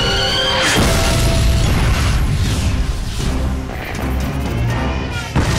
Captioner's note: artillery booming; explosions booming; dramatic music; artillery booming